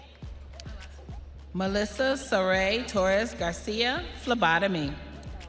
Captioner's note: audience applauding